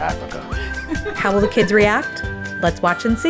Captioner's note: laughs